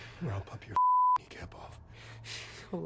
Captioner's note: beep